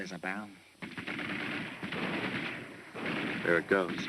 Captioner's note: gunshots